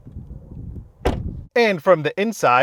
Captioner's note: door slams